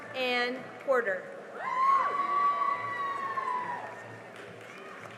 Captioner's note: cheering and applause